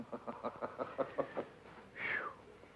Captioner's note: George chuckling